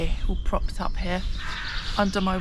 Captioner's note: crow